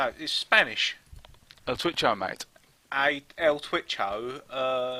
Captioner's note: bad Aussie accent again